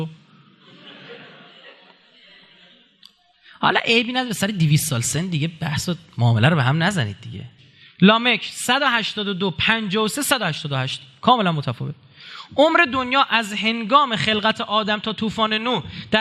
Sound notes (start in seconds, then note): 0.5 laughters